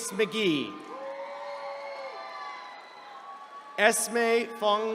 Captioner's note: attendees cheering